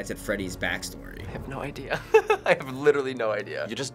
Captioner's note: guffaws